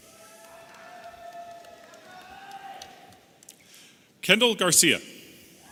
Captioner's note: audience cheering